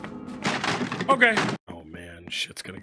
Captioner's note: wood splinters